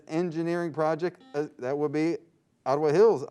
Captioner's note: buzzing sound